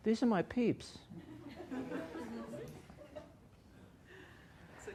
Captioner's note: laughter